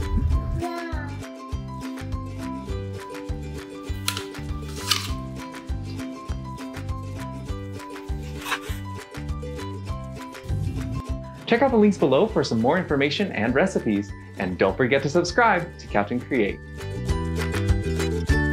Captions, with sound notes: yum [crunch] [crunch] check out the links below for some more information and recipes and don't forget to subscribe to captain create